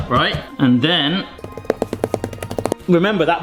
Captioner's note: rolling pin clatters